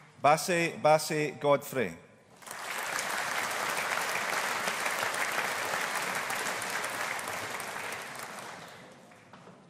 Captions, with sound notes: Bassey Bassey Godfrey. (AUDIENCE APPLAUDING)